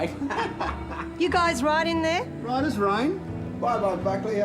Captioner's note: laughter